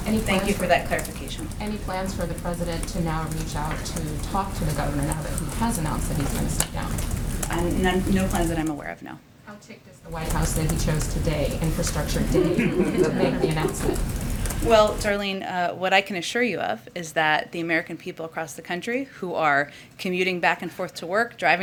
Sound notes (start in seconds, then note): 12.1 laughter